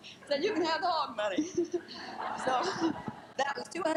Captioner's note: laughing